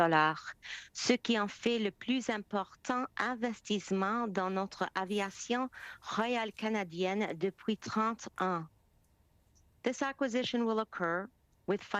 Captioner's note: speaking French